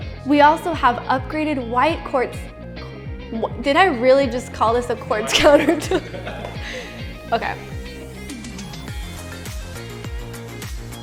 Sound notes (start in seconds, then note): 5.2 laughs; 8.2 upbeat music